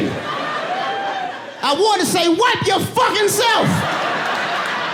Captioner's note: audience laughing